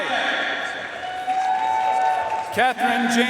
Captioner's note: audience cheering and applauding